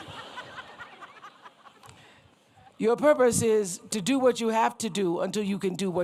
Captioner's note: laughter